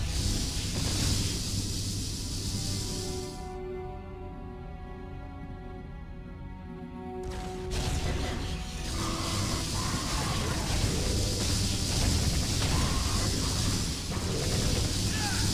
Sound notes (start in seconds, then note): 0.0 laser blasts; 9.4 grunts